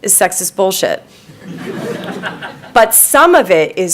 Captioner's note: audience laughing